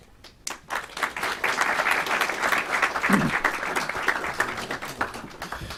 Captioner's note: clapping